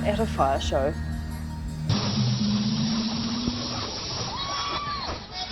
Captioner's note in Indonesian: sorak-sorai